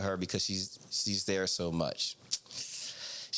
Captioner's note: none